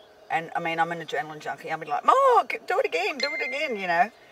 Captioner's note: phone beeps